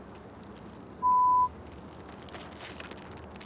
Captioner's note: beep